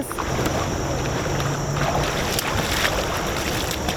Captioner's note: water sloshing